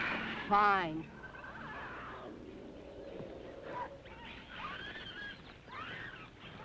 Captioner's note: birds chirping; animal calling